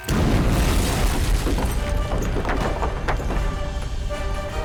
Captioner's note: explosion